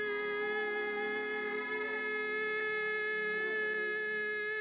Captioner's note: high piercing whistling